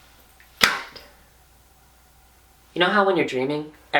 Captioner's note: claps